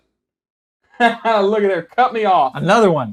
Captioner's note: laughs